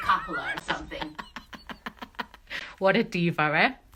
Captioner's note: laughing